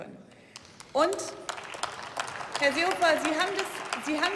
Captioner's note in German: Beifall